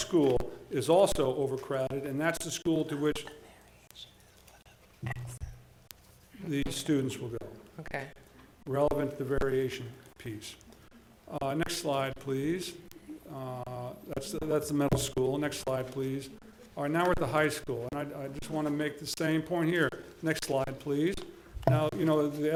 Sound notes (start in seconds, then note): 4.2 board chatting quietly